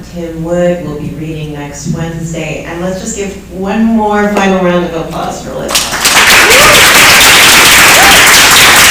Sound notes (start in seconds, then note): 5.7 applause